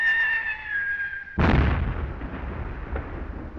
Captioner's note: bomb whistling; explosion in distance